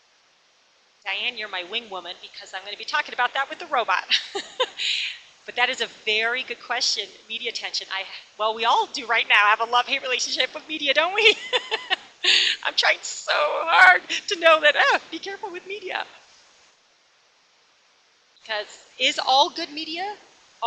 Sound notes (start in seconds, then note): 11.1 laughs